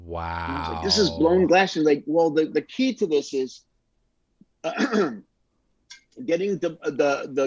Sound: clears throat

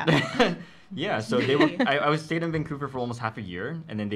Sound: laughs

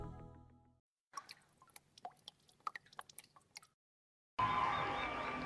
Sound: raindrops falling on the cascading water; audience cheering and applauding

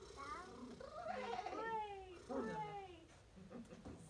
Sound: praying Sounds

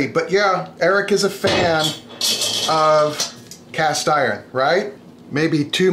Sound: clanking

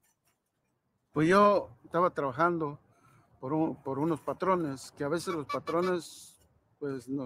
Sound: speaking in foreign language

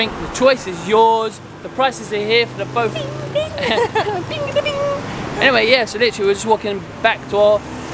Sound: laughing

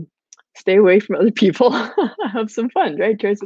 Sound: laughing

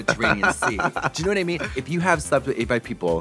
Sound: Trixie titters

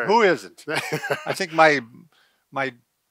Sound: laughs

